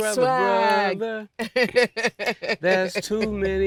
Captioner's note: laughing